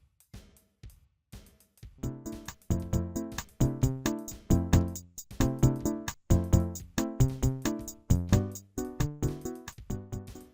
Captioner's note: timer